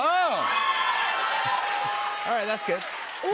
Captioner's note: cheers and applause